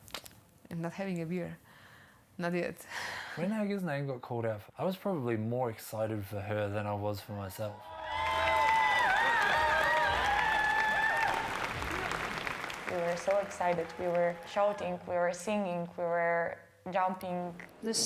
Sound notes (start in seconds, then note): 0.2 clicks teeth; 7.7 cheering; 8.0 applause